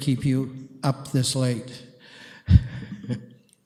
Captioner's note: chuckles